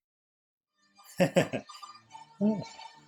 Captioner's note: giggling